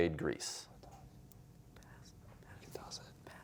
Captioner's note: whispering